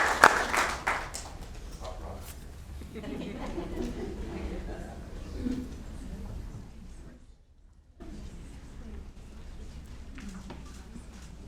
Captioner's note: applause